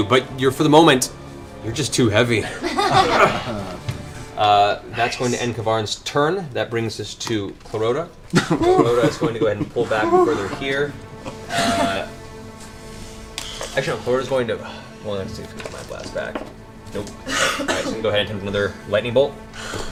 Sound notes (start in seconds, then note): 2.4 laughter